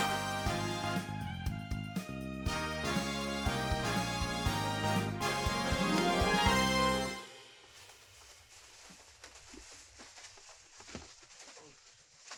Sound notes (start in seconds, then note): 0.0 triumphant music; 7.7 paper rustling